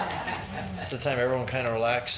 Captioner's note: people laughing